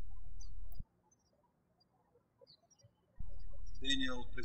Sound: birds chirping

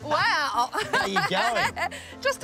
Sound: laughs

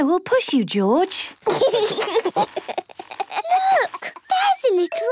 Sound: George giggling

